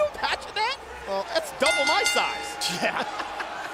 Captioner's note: bell rings